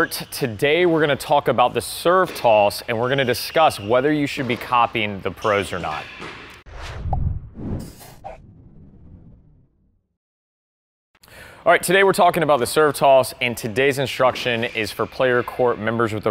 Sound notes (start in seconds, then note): 6.6 swooshing